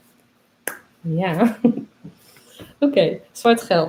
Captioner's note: laughs